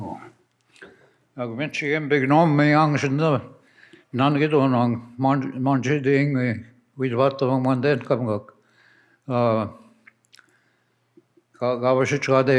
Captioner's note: speaks in Ojibwe